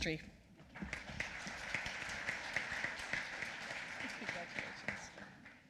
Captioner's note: applause